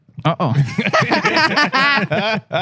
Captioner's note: laughter